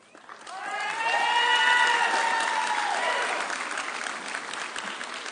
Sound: audience cheering

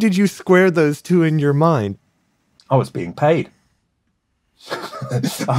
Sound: laughs

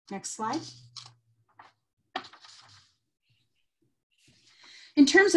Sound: paper shuffling

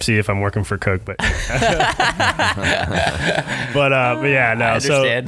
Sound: laughing

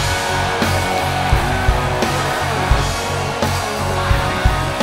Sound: crowd cheering

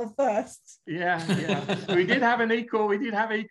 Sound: laughing

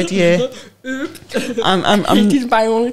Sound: chuckles

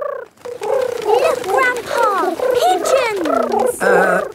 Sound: pigeons cooing

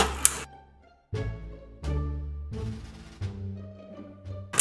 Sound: knocking noises

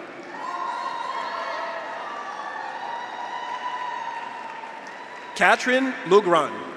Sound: audience applauds; graduates cheer

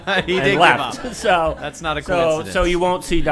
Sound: laughter

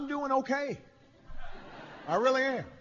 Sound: laughter

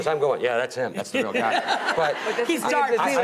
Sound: laughing

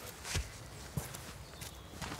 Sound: birds chirping

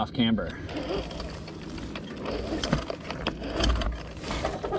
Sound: bike whirring

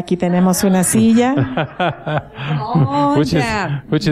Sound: laughter

